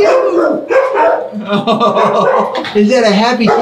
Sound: laughs

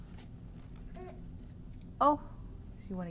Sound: baby coos

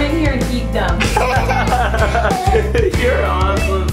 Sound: people laughing

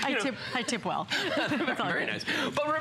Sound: laughter

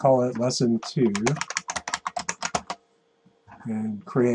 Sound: keyboard clicks

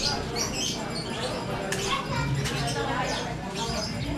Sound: birds chirping

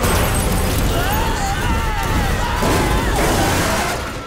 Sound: screaming

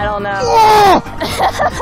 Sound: intense grunt; laughs

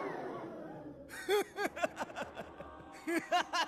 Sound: laughing

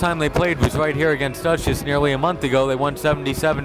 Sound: none

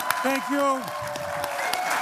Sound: applause

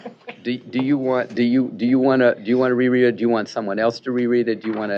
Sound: laughter

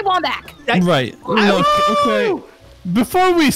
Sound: yelling

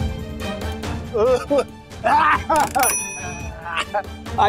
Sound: coughs

